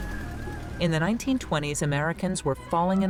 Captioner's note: cars rumbling